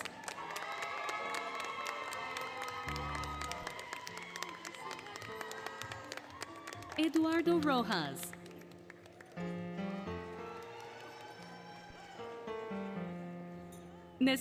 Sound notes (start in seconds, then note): 0.1 applause, Cheering, Music; 5.4 applause, Cheering, Music; 8.8 applause, Cheering, Music